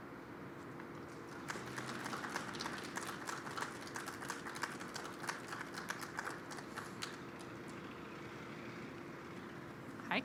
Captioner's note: applause